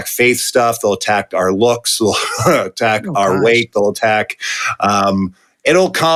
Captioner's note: chuckle